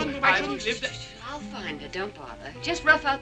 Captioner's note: shushing